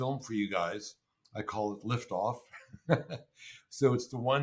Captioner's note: laughs